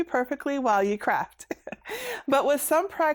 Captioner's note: chuckles